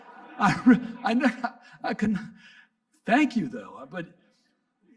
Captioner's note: audience laughing; laughs